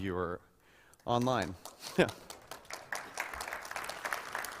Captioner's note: applause